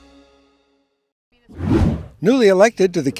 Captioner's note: screen whooshes